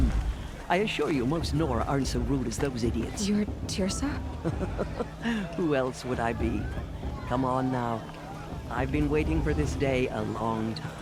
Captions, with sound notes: I assure you most Nora aren't so rude as those idiots. You're Teersa? [laughs] Who else would I be? Come on now! I've been waiting for this day a long time.